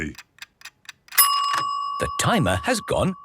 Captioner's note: dinging